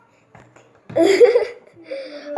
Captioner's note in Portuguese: risada